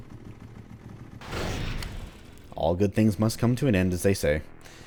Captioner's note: scrapes wall again